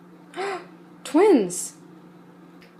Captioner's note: gasp